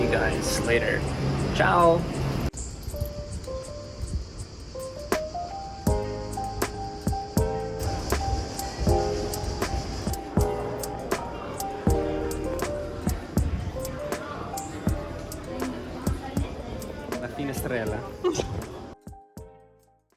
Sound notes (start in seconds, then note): 13.6 laughter